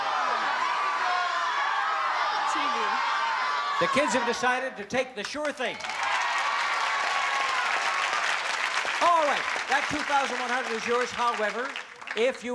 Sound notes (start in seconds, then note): 3.7 applause